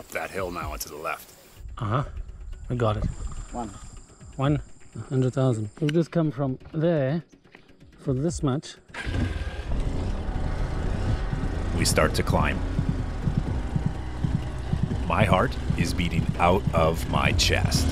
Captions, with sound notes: [Engine starts] We start to climb. [Heart beats] My heart is beating out of my chest.